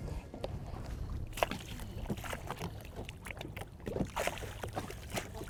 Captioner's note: water sloshing